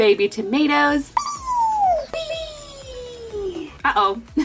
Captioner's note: squealing